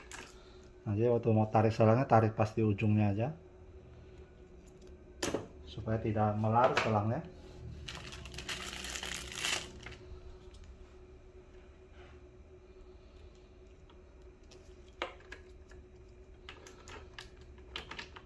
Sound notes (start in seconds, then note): 5.0 uninstalled damper sound; 7.7 plastic sound